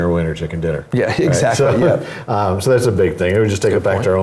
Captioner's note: laugh